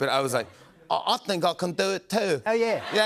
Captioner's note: gruff British accent